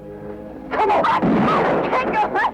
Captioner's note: gunshot